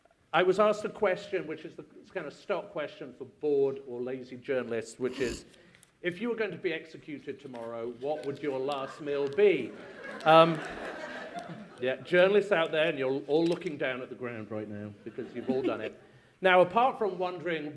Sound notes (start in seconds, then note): 9.5 laughter